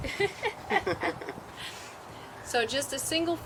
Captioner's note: laughs